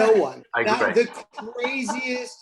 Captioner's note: laughing